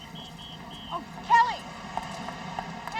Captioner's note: whistle blowing